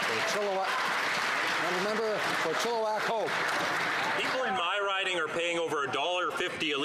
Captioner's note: some Applause